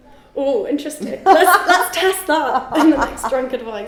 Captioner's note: laughing